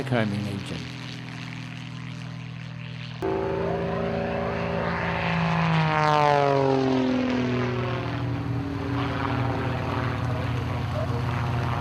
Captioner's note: aircraft sounds